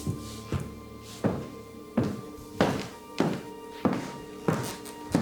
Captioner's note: Fredriech stomping